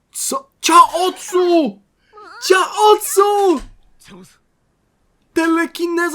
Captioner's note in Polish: krzyk